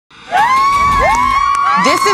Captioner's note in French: acclamation de la foule